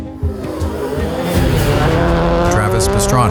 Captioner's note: engine roaring